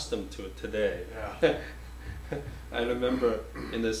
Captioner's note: offscreen Voice; chuckles